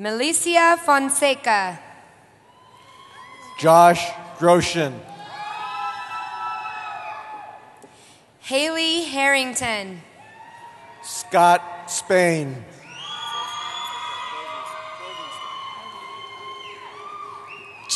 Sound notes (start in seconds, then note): 2.5 cheering; 10.2 cheering; 12.8 cheering